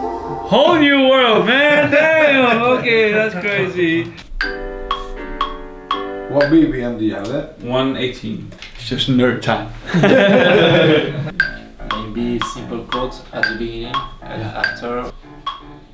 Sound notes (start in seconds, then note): 0.0 laughs; 9.9 laughs